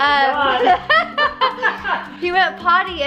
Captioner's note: laughing